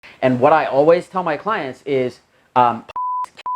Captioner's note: beep